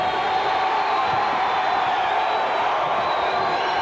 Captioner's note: cheers